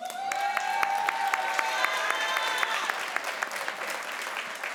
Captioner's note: crowd applauds